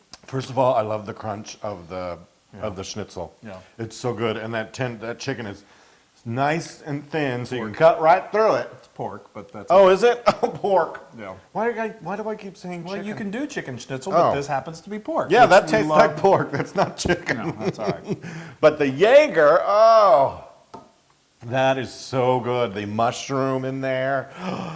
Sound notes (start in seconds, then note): 15.3 laugh